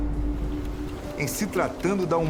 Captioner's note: clock ticking and waves